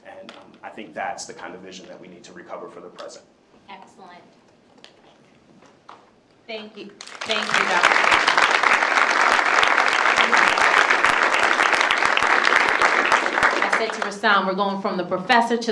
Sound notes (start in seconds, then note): 7.0 applause